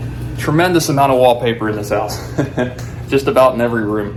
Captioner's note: laughing